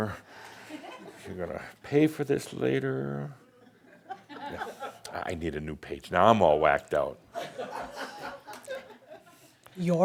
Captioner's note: more chuckles